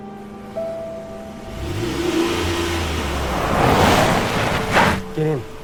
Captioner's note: car engine revs